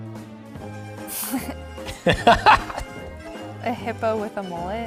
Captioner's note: laughs